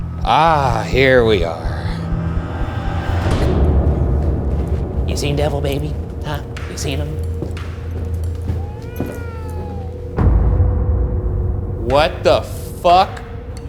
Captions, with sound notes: Here we are. (gentle foreboding music) You seen Devil Baby? Huh? You seen him? (baby crying) What the fuck?